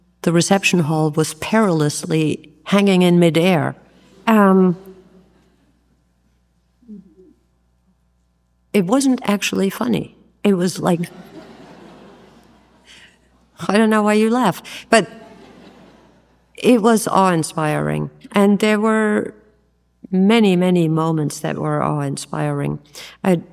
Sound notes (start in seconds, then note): 4.7 audience laughs; 11.0 audience laughs; 15.0 audience laughs